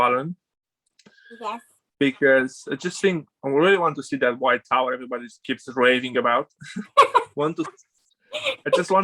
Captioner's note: laughs